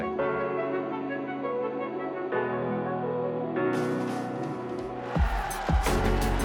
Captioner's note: crowd cheering; upbeat music